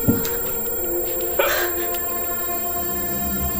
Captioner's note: Morales grunting, Maya gasps